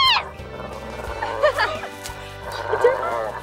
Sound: laughing

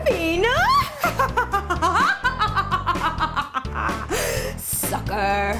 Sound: laughs wickedly

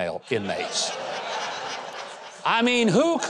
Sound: crowd laughing

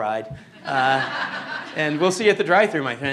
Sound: laughter

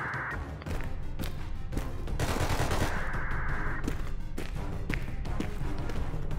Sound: stealthy footsteps

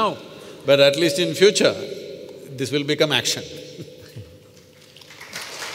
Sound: applause

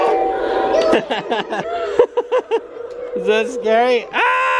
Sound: laughs

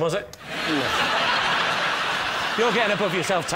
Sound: laughter

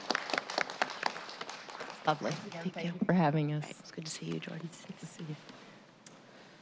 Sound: applause

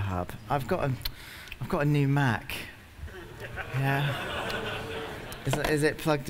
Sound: laughter

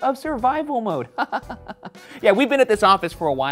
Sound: chuckles

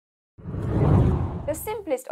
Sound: screen whooshing

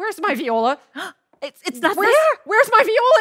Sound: gasps

